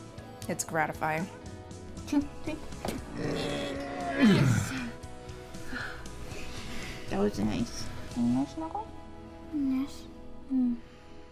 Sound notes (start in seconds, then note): 0.0 chuckles; 3.0 grunting